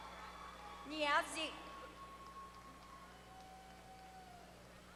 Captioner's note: applause